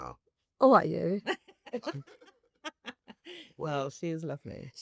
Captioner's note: laugh